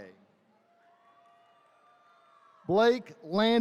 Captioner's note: attendees cheering